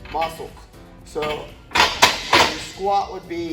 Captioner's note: metal clunking